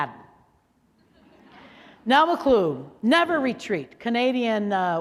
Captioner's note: laughter